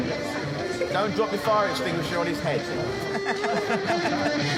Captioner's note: laughs